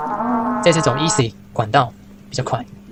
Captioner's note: the sound of faint footsteps